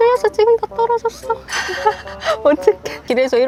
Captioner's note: A laugh just slips out